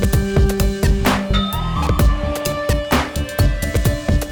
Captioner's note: ding